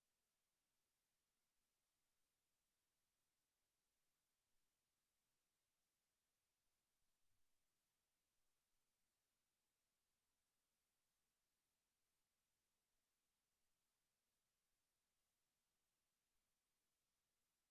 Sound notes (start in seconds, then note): none